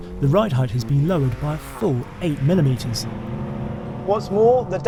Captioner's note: vehicle revs